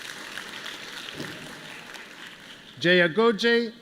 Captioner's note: applause